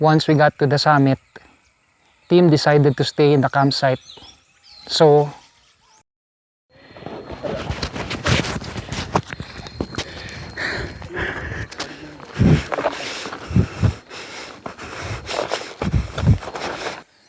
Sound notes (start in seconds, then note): 6.9 footsteps; 10.7 panting; 13.8 throbbing